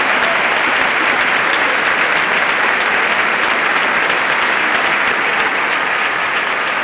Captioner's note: applause continue